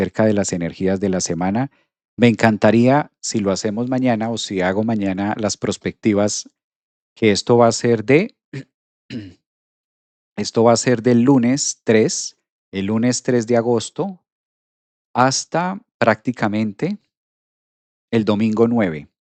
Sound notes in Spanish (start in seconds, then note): 9.1 carraspeo